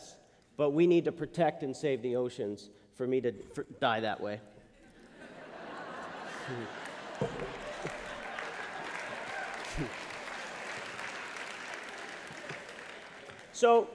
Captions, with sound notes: But we need to protect and save the oceans for me to die that way. [LAUGHTER] [APPLAUSE]